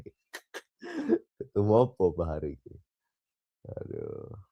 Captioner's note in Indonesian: tertawa